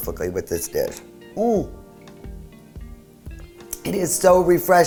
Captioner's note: groaning